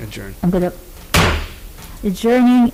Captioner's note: gavel bangs